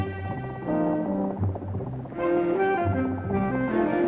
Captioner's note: boat puttering